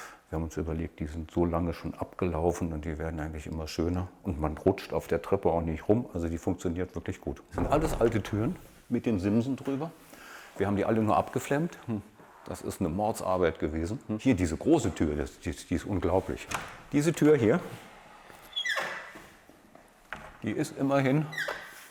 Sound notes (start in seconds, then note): 18.4 squeak